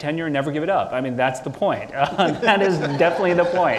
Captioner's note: audience laughing